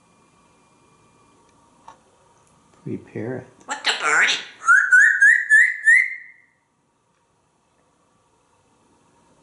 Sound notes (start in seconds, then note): 4.6 whistling